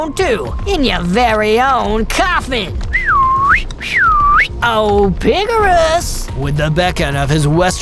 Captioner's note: cowboy beckoning whistle